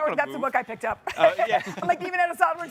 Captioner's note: chuckles